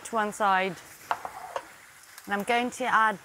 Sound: plate sliding

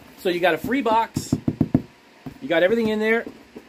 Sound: hand tapping box

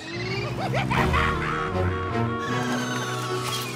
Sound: cackling

